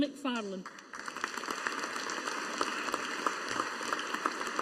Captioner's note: audience applauding